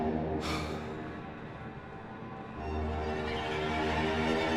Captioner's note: light dramatic music; Danny sighs